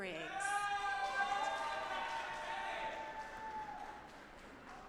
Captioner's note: audience applauding